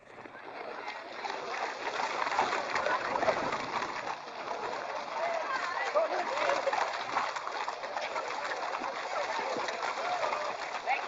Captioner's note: sound of hooves and indistinct chatter